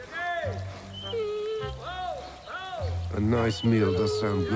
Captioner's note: man shouting